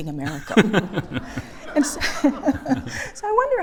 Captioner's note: laughter